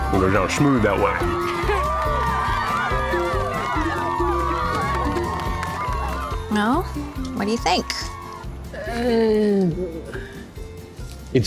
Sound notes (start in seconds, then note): 1.6 cheering